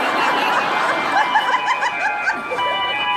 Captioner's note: audience laughs